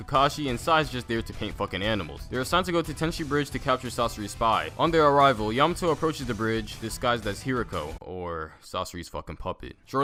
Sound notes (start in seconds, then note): none